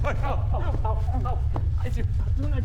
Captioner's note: painful noises